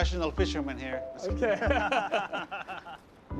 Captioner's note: laughter